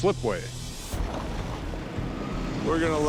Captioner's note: machine running